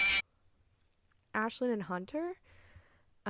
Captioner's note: FNAF Jumpscare Noise